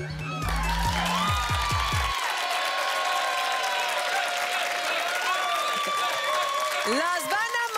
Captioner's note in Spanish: Gritos y exclamaciones